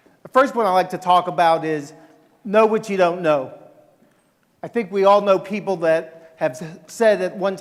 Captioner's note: none